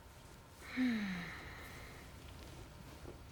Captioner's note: sighs